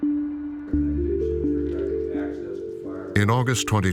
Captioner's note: people talking in background